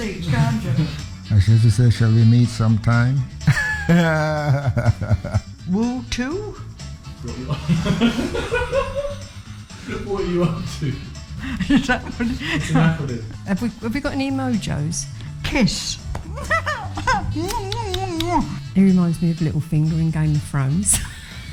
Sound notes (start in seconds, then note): 3.4 laughs; 7.5 people laughing; 16.2 laughs